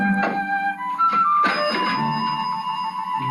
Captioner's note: ding